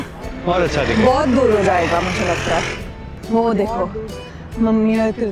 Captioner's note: nasal voice